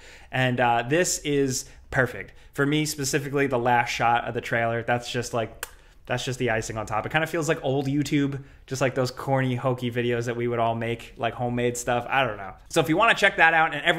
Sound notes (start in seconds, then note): 5.5 vocalizes